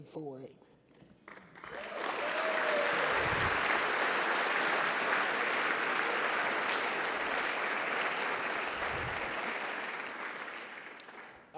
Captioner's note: applause and Cheers